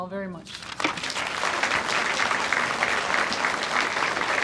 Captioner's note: audience applauds